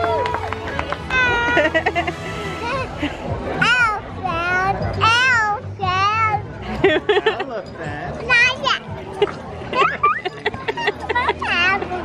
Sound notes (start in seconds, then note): 1.2 laughs; 8.4 babbles